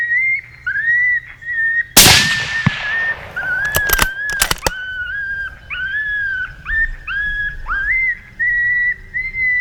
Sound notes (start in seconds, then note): 2.0 gun shooting; 5.5 coyote call shrieking